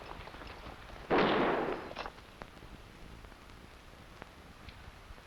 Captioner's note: gunshots blasting